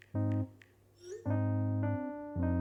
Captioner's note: message alert sound